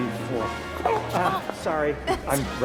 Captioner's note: grunt in pain